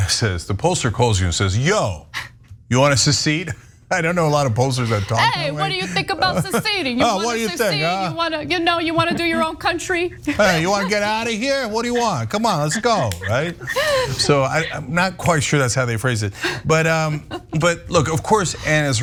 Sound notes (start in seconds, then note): 4.9 laugh; 12.9 laugh